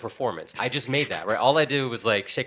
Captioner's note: laughing